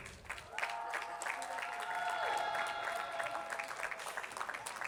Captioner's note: attendees clapping